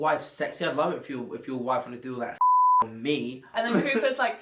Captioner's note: beep